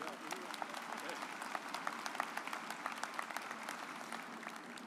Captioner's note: audience applauds